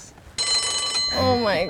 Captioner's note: bell rings